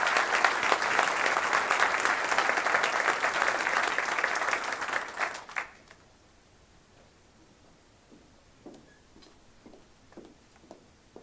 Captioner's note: applause